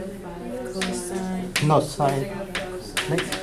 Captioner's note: voiceover